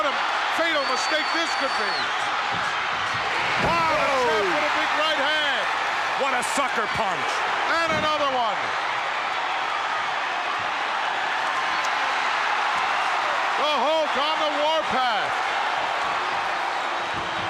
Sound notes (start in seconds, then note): 3.2 commentators exclaim; 3.8 crowd cheers